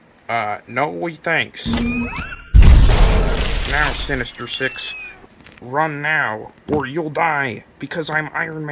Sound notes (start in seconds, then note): 2.5 explosion